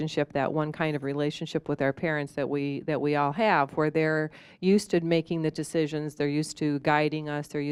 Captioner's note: none